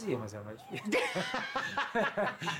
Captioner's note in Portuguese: risos